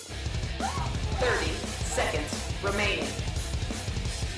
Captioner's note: computer over speaker